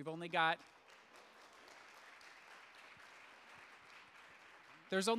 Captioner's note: audience applauds